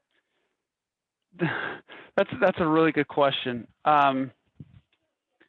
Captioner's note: laughter